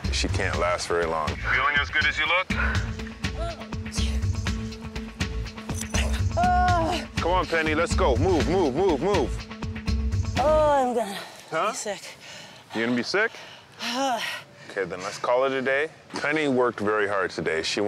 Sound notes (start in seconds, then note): 5.9 groaning